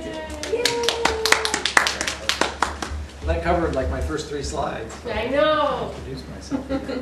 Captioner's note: applause